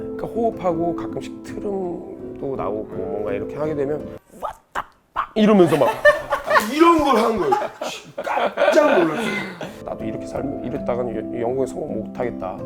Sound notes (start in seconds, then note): 4.1 impersonation